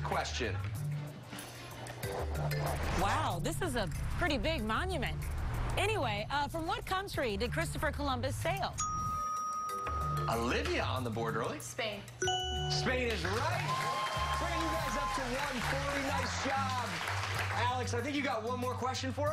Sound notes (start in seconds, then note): 13.0 cheers and applause